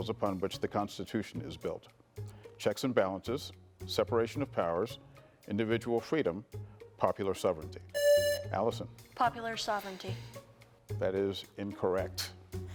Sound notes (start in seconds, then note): 7.9 presses buzzer